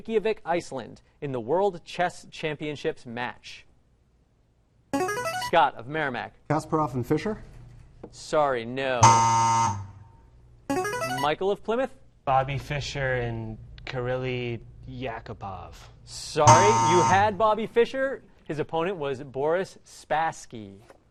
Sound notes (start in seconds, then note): 4.9 ringer; 9.0 buzzer; 10.7 ringer; 16.4 buzzer